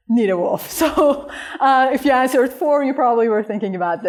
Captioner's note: laughter